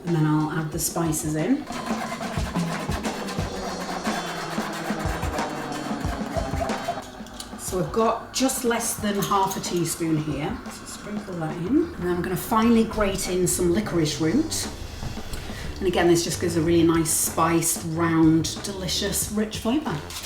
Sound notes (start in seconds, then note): 1.6 sieve scraping